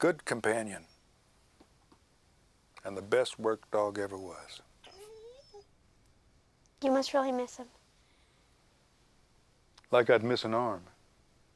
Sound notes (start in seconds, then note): 4.8 Buck whines